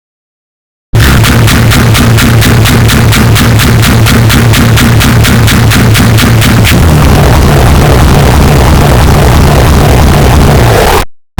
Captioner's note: yelling Earrape